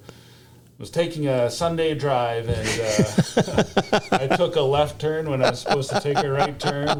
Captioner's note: laughter